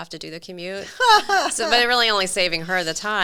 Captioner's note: laughing